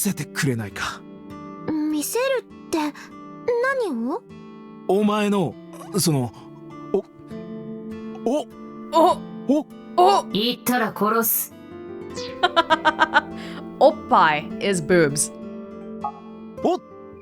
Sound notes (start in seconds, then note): 12.4 chuckles